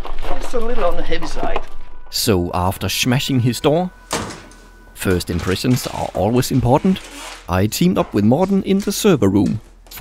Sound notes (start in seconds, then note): 4.1 thud!